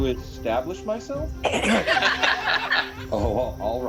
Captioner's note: good-natured laughter